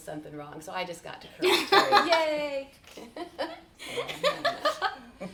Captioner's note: chuckles; chuckling